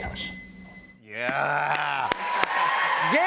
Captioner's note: cheers and applause